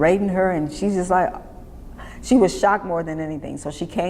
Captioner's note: gasps